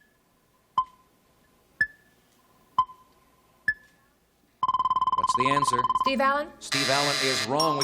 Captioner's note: beeping